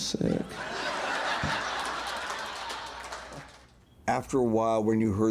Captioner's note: crowd laughing